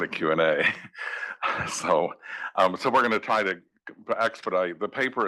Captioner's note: laugh